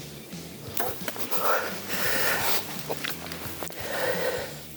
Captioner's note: bowstring thuds